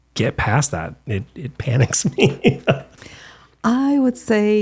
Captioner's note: laughs